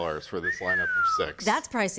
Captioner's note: whistling